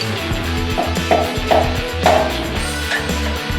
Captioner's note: thuds; upbeat music